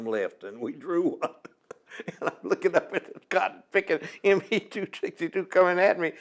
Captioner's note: laughs